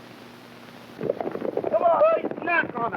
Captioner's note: hooves clopping